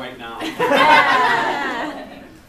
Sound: laughs

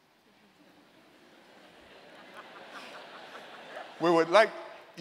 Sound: laughter

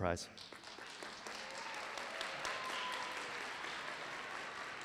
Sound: applause

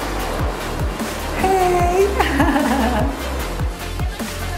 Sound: laughs

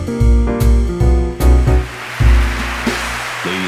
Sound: applause

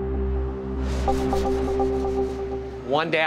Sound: tense music; cloth scraping

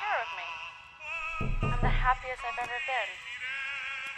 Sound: knock

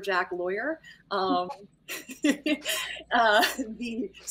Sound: players laughing

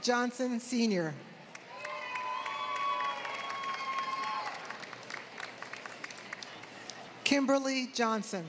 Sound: applause

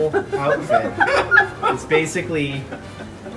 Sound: laughter

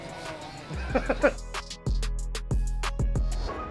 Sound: laughs; gentle music

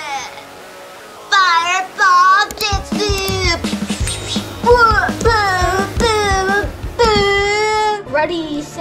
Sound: battle sounds

